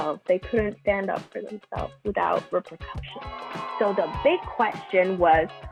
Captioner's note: children boo